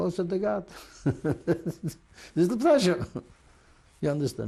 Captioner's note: laughs